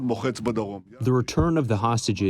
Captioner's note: through translator